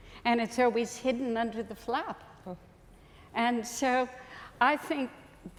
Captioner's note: none